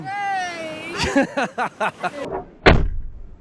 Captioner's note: hahahhaha